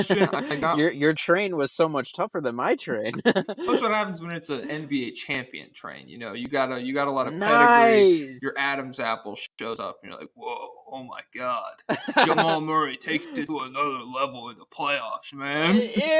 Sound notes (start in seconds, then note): 12.0 laughs